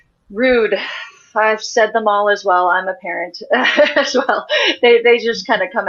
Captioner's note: laughs